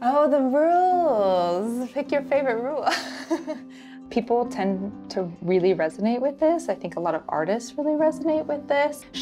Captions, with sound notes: Oh, the rules. Pick your favorite rule. [chuckles] People tend to really resonate with this. I think a lot of artists really resonate with this.